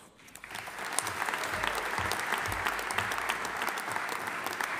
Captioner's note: audience applauding